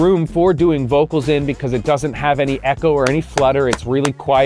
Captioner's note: claps